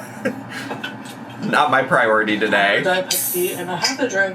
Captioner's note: laughs